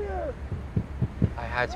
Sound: banging

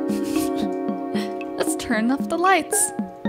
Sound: laughing

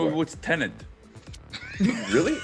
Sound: laugh

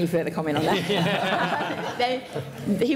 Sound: laughter

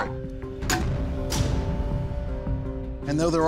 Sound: metal thudding

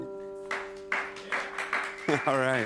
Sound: applause

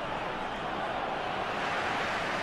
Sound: crowd keeps cheering

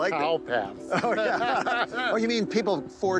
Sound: both laughing

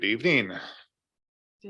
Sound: board members laughing

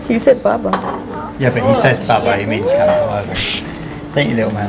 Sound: laughs

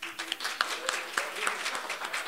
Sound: applause

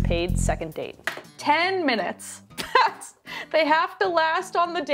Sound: laughs

